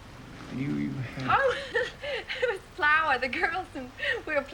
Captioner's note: laughs